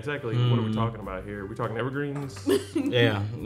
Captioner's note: laughing